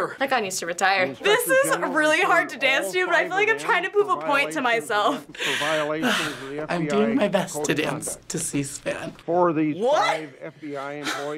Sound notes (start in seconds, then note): 5.3 huffing